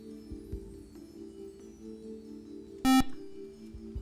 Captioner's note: buzzer